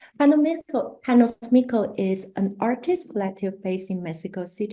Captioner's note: spanish